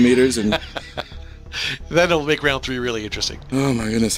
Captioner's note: laughing